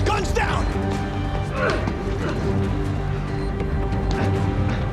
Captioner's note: grunts